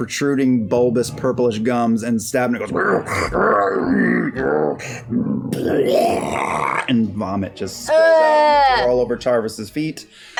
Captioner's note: gurgling